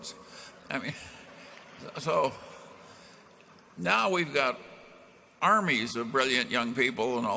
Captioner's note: laughter